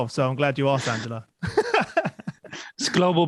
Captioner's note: laughs